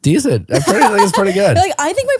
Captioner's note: laughing